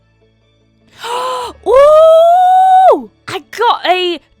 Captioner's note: gasps